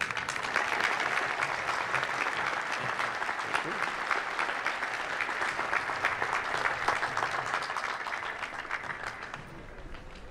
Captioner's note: applause